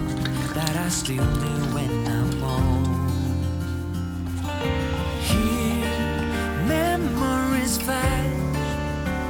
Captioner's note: draining water